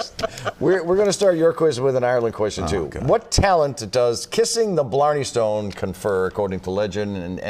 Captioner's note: laughter